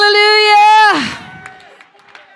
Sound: congregation cheering

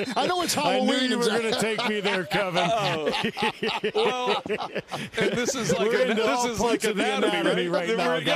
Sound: laughter

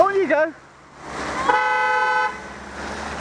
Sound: car horn

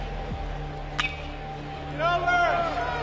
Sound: crack

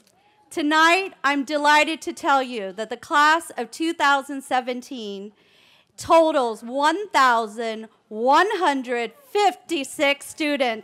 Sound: cheering

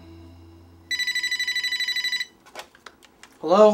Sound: phone rings

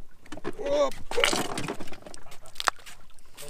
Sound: humbolt squid splashes water

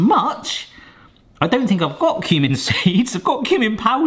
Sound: laughs

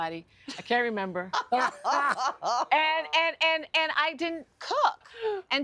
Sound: laughter

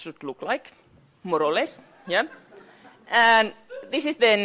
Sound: audience laughs

